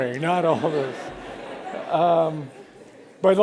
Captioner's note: laughter